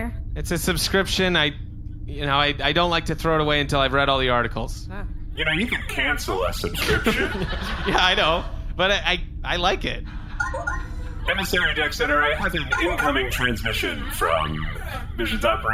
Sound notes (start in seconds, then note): 10.4 incoming transmission sound